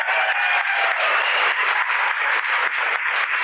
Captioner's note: cheering and whooping